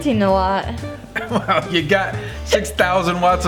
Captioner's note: laughs